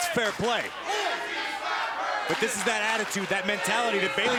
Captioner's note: crowd cheering